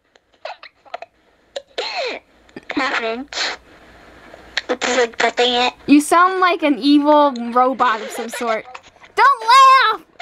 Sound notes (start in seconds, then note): 0.1 giggles; 7.9 weird messed up laughter